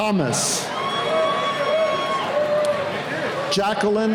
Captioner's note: cheering